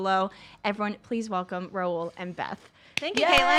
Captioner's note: clapping